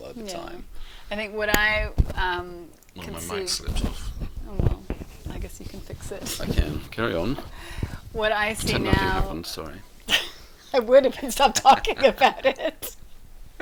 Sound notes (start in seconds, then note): 10.1 laughing; 11.4 both laugh